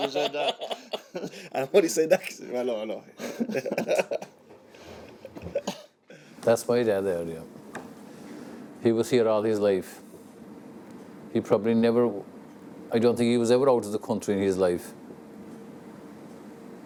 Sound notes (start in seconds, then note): 4.9 laughing